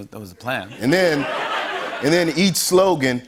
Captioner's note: laughter